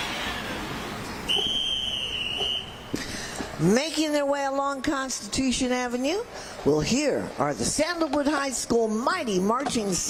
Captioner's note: cheering